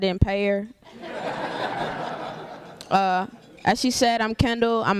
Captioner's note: laughter